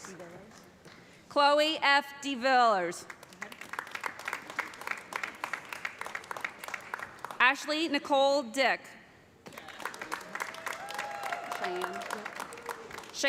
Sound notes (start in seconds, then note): 3.0 applause; 9.5 cheers and applause